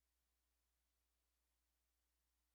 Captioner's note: none